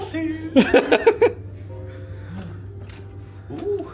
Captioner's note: laughs